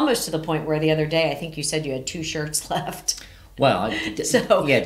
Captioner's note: chuckles